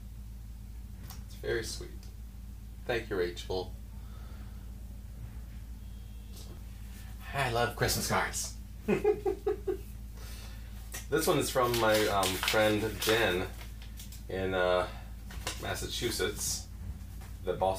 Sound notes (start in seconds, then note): 8.8 giggles